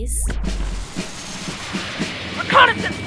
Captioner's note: jet engines